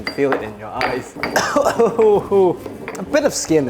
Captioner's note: coughing